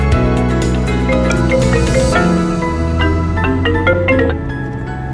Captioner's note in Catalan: Sona el telèfon mans lliure del cotxe